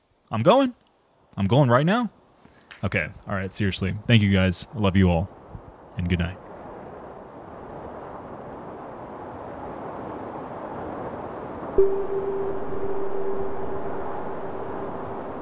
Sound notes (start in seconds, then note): 6.6 heavy rain fall whooshing; 11.8 enchanted music